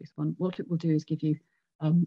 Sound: sound interrupted

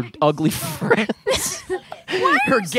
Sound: laughing

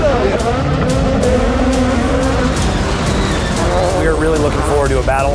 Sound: cars revving

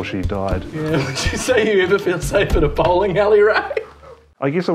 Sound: laugh

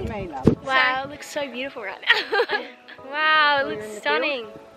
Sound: laughs

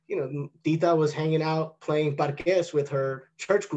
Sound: non-english

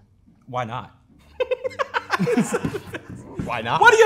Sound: laughs

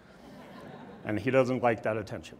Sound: audience laughs

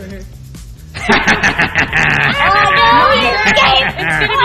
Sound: laughs

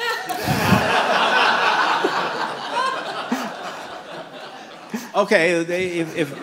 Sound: laughter

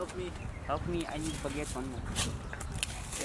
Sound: in Nepali

